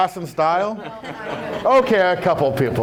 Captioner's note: laughs